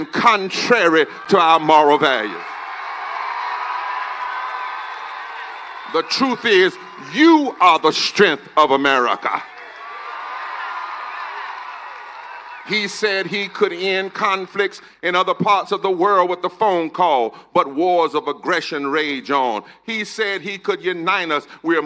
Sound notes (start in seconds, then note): 8.8 cheers and applause